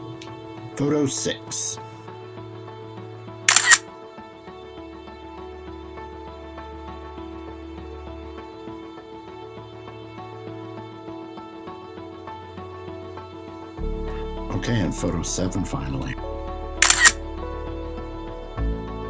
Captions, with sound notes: Photo six. [Camera click] Okay. And photo seven. Finally. [Camera click]